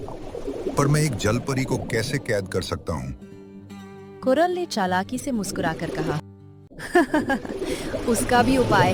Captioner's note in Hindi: हंसी